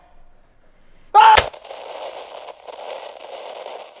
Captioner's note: static